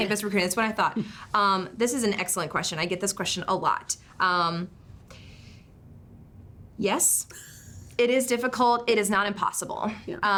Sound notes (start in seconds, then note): 7.1 chuckles